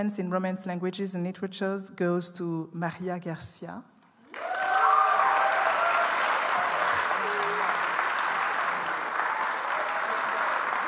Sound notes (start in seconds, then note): 4.2 audience applauds